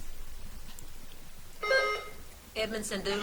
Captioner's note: buzzer beeps